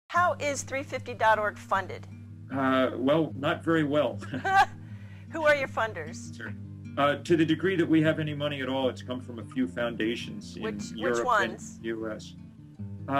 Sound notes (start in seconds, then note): 4.8 gülerek